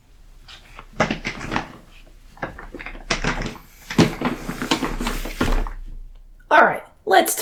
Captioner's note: chair Noises